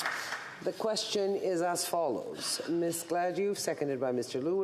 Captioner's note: applause